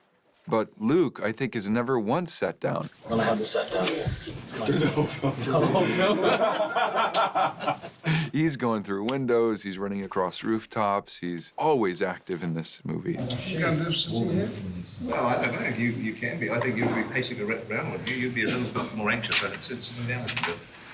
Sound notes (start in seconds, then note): 6.6 all laugh